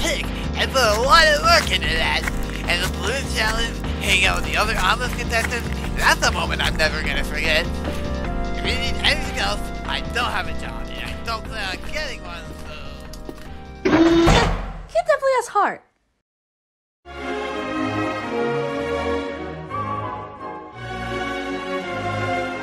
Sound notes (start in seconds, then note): 13.9 doors slam shut